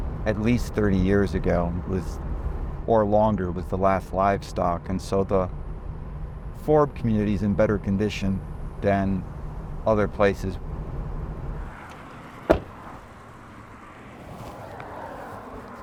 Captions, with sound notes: At least 30 years ago or longer was the last livestock, and so the forb community is in better condition than other places. (car door latching)